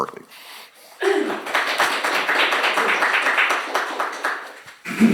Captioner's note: applause